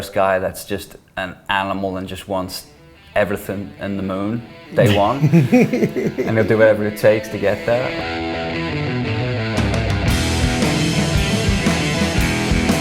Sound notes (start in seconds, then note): 4.7 laughing; 9.5 rock music